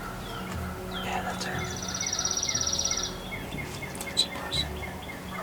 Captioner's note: whispering